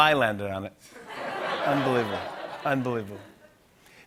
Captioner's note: laughter